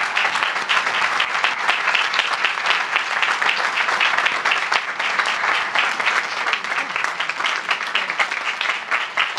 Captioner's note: applause